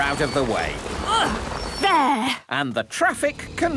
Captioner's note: grunts